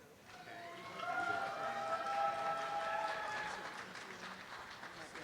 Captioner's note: applause